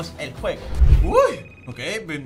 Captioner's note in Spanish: Sorprendido